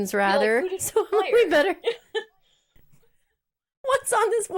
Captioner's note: both laughs